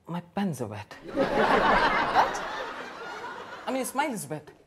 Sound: audience laughs

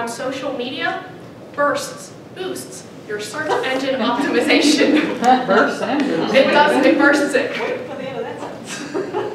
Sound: laugh; audience laugh

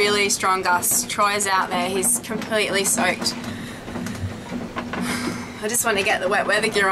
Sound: sighs

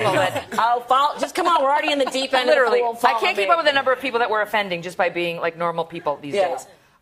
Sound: laughter

